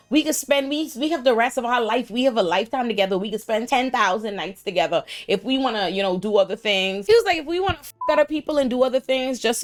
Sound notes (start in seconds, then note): 7.9 beep